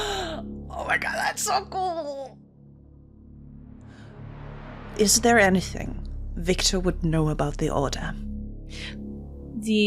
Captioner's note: gasps